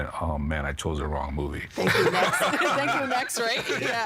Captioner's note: all laughing